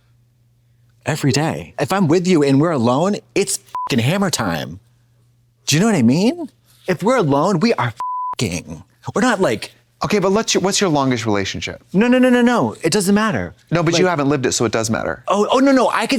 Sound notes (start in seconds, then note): 3.7 beep; 8.0 beep